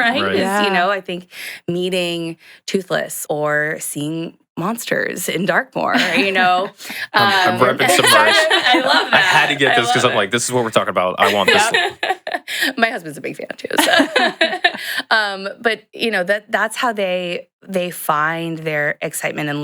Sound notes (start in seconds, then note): 11.1 laughs